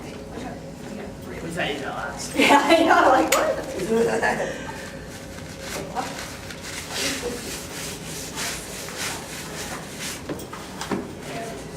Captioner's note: background Chatter